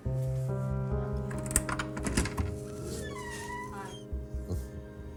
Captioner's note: door creaking